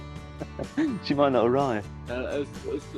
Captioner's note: laughs